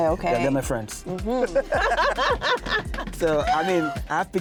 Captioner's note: laughing